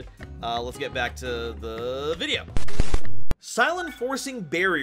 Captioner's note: static Noise